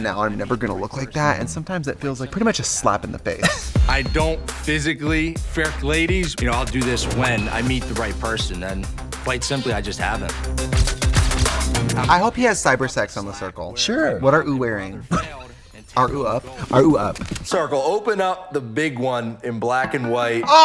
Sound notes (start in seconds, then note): 10.7 camera clicks; 15.2 Katya laughs